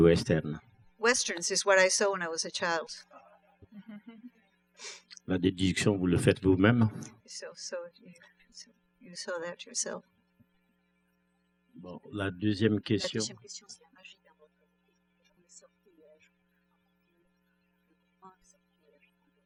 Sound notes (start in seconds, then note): 3.7 laughs; 5.9 speaking french; 11.9 speaking french